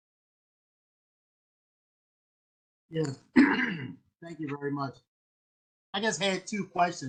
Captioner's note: cough